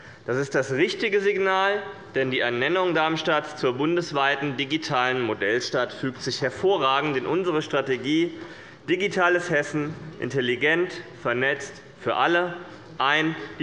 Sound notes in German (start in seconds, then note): none